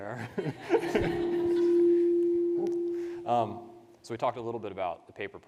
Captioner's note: participants laugh